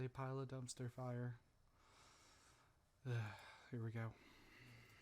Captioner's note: sigh